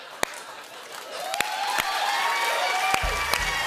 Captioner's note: cheers and applause